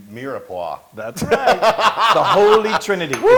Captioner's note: laugh